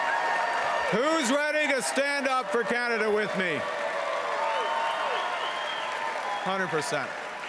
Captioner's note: cheering and Applause